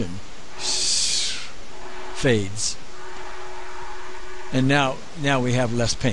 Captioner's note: makes air noise